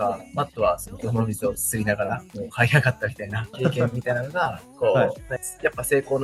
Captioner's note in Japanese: 笑い